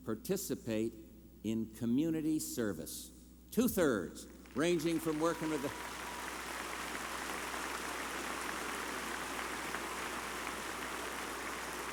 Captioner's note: applause